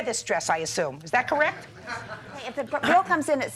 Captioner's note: people laughing